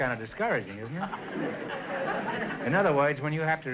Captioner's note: audience laughter